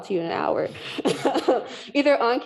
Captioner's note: laughing